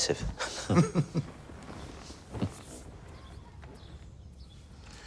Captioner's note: chuckling to self